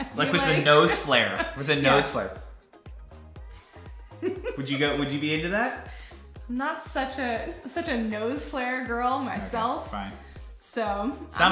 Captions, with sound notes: Like with the nose flare, with the nose flare. (laughing) Would you be in to that? - Not such a nose flare girl myself. So.